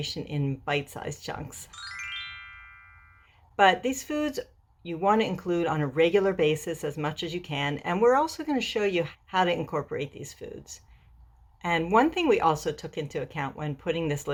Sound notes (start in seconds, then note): 1.6 chimes